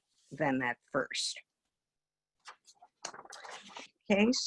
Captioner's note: paper wobbles